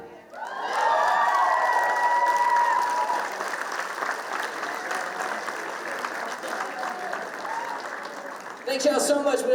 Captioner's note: applause